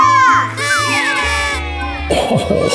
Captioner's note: cheering